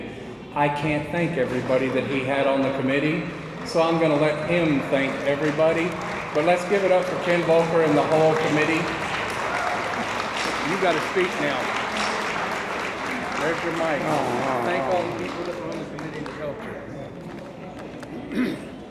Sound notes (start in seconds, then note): 8.9 attendees applauding; 8.9 attendees cheering